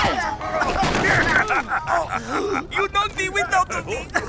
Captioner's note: gaaasp!; cough cough